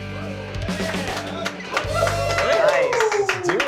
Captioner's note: applause